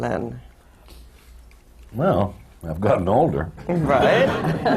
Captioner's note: laughter